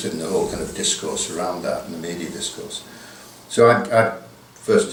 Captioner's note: none